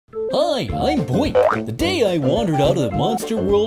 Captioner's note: boink